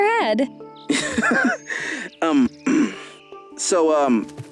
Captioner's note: Zaid laughs, then clears throat